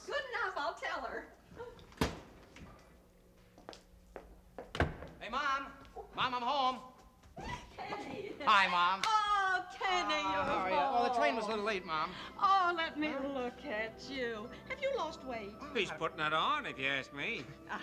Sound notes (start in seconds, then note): 4.7 door shuts